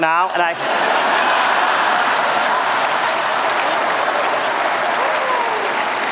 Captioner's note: laughter